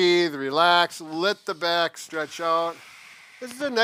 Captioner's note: exhales